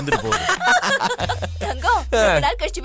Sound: laughs

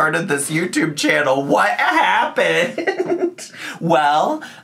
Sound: laughs

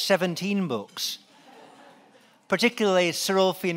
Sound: laughing

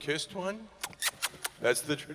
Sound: kissy noises

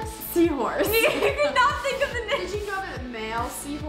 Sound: laughs

